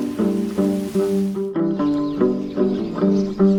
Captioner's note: birds chirping